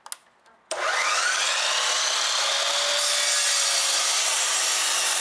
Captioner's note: metal grinding